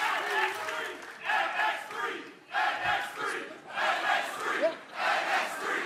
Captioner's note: crowd cheering